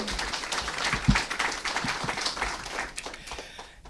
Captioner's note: applause